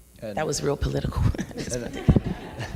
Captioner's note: laughs; audience laughs